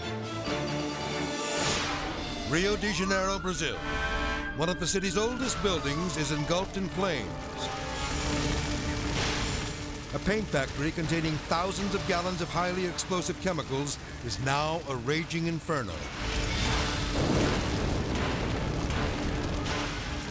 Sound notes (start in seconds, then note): 3.8 fire engine siren blares; 7.4 fire crackling and whooshing; 16.0 fire crackling and whooshing